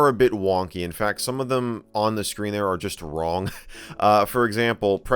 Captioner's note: short Laugh